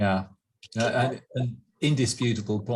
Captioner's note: laughing